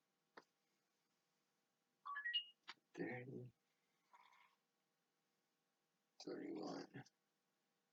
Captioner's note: beep in the background as whisper counting continues